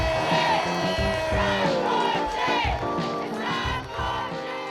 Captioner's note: crowd